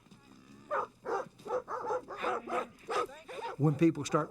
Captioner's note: cattle lowing; dogs barking